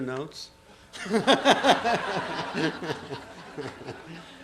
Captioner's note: laughter